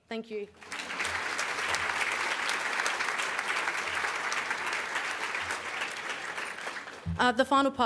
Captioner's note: audience Applause